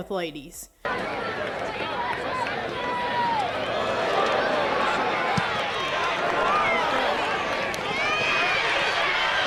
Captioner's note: football game is going on, crowd cheers